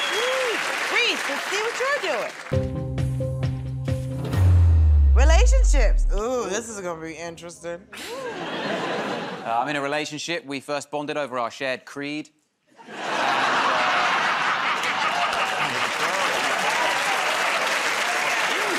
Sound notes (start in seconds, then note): 14.8 laughter; 16.7 applause